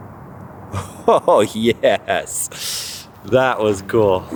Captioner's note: chuckles